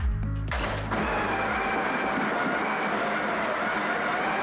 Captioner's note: grinder whirring